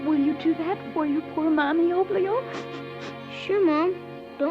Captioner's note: sniffling